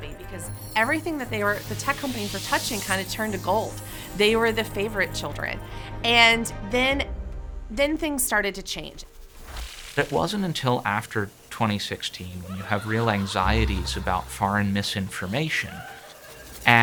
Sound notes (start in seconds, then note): 9.9 ominous laughing